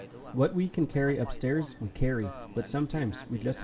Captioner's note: through translator